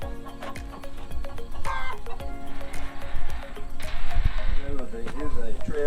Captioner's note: chicken clucking